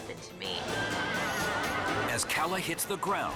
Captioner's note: horse neighs